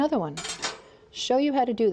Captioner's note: clattering